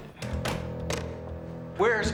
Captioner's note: door closing